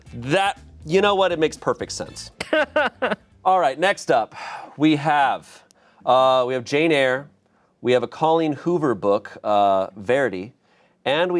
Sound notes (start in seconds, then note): 2.3 laughs